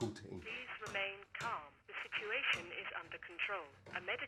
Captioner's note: intercom